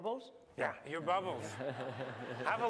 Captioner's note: laughter